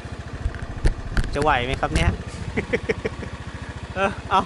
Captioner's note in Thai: หัวเราะ